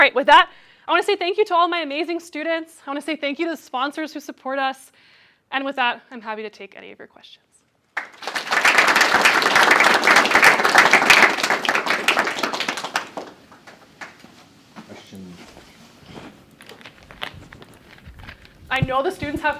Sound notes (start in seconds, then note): 7.9 applause